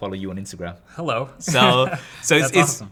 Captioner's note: laughs